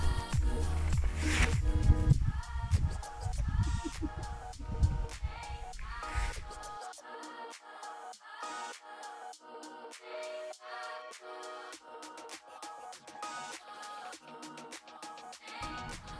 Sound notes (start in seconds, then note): 3.6 giggling; 7.0 chill out music